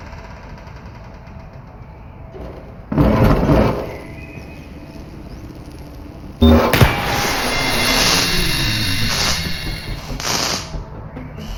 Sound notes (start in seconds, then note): 6.4 gunshot